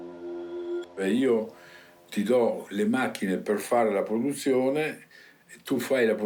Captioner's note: speaking in foreign language